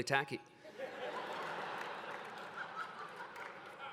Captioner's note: laughter